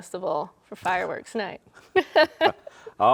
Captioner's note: laughs